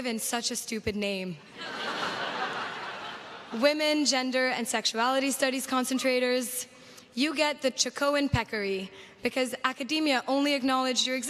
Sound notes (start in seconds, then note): 1.5 crowd laughs